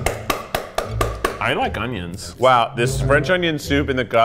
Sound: container thumping

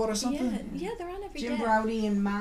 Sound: voiceover

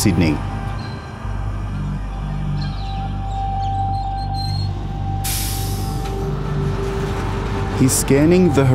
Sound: train starts to move

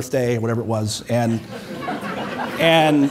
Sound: audience laughing

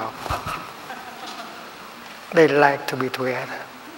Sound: laughter

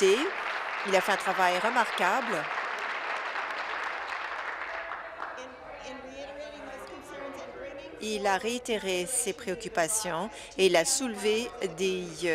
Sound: applause

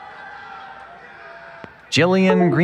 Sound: cheering

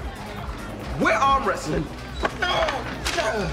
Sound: sounds of exertion

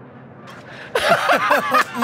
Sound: laughter

